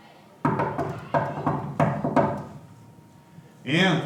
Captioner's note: someone knocks on the door